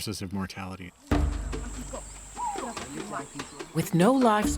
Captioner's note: speaking local language